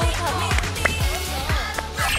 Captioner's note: clapping